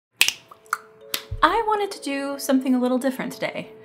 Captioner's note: fingers snapping